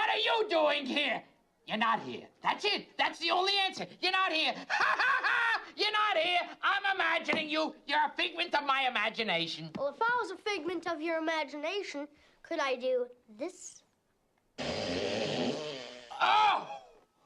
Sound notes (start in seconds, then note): 4.5 laughs